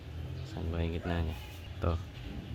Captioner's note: speaking to himself